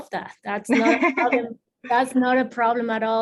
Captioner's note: laughs